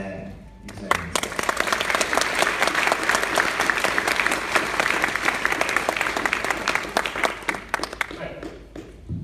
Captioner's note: applause